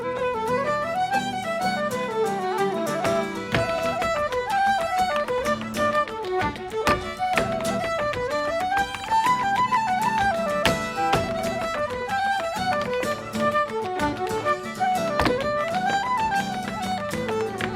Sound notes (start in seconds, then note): 3.4 bright Irish music; 3.4 shoes rhythmically tapping